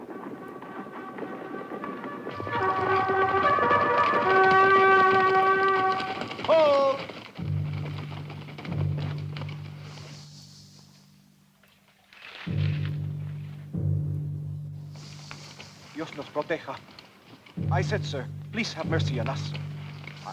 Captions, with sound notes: (rousing horn melody) - Hold! (suspenseful music) (Ramirez speaks Spanish) - I said, sir, please have mercy on us.